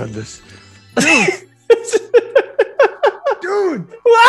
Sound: laugh

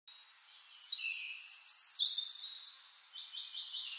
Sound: birds chirping

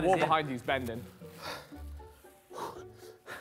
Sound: sighs

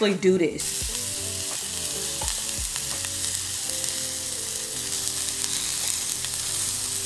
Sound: soft music; pan sizzling

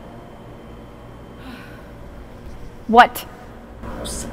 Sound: Shenise sighs

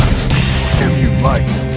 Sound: gunshot

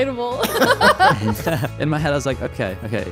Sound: everyone laughing amusingly

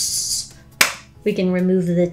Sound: claps

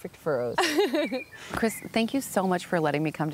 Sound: laughs

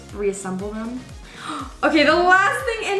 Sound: gasps

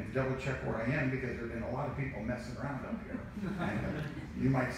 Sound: laughs

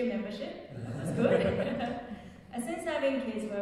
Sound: audience laughing

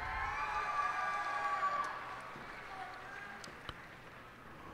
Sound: cheers and applause

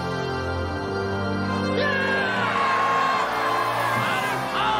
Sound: cheering

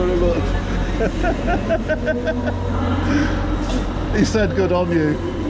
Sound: laughing

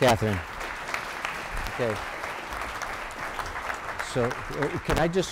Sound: applause

